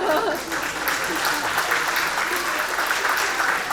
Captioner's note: audience clapping